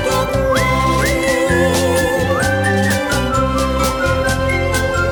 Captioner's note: all whistle tunefully